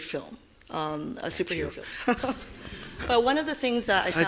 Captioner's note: laughing